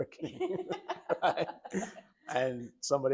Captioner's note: doctors laughing